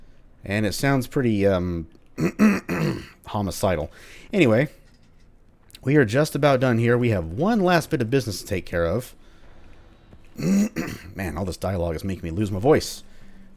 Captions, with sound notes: and it sounds pretty, um... *clears throat* homicidal. Anyway... we are just about done here; we have one last bit of business to take care of... *clears throat again* man, all this dialogue is making me lose my voice, and